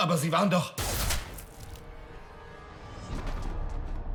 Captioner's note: bang